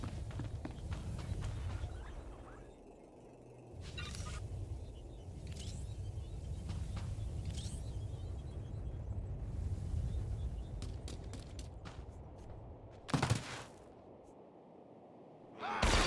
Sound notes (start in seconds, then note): 5.4 beeping; 12.3 explosion